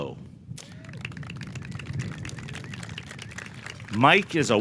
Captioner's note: audience clapping